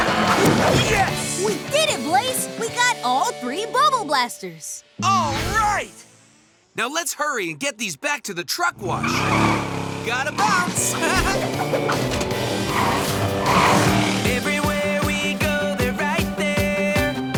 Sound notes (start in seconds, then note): 10.3 laughing